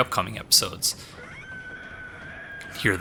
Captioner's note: Cleric Beast shrieks